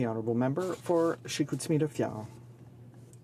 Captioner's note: speaking French